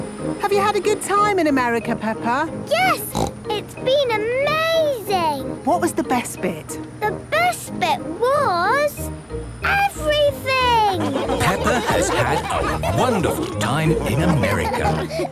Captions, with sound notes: - Have you had a good time in America, Peppa? - Yes! It's been amazing! - What was the best bit? - The best bit was... Everything! (laughing) - Peppa has had a wonderful time in America.